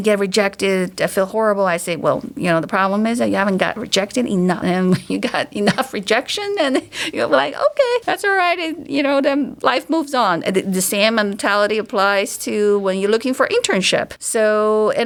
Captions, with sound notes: get rejected. I feel horrible." I say, "Well, the problem is that you haven't gotten rejected enough." [chuckles] When you got enough rejection, and you're like, "Okay, that's all right." Then life moves on. The same mentality applies to when you're looking for internship.